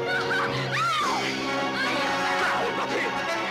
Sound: screaming

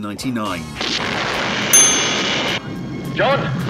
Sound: loud explosion

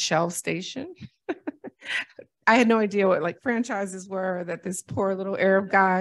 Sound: laughter

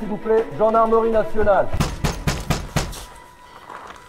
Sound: shouting in French; banging on door

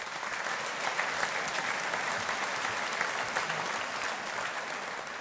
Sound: audience applauding

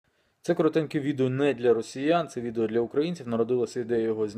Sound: in Ukrainian

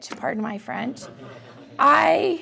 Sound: laughter

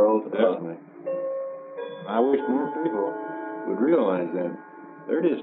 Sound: clock chimes

